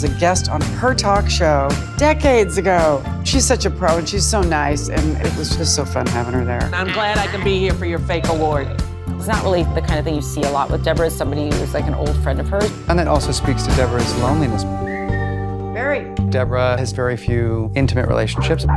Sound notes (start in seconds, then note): 14.8 whistles